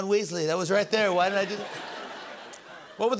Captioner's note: laughter